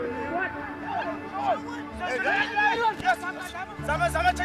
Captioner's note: shouting in afrikaans